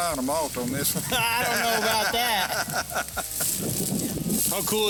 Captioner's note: laughs